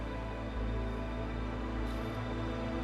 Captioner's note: crying and music